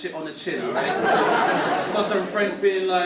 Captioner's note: audience laughing